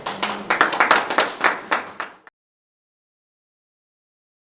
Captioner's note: light audience applause